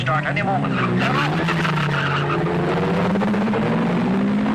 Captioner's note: tires squealing